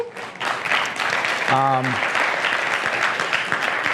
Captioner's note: applause